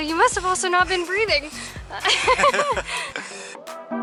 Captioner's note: laughter